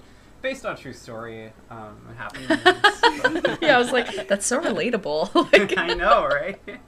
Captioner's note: laughter